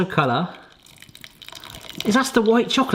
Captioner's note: milk ripples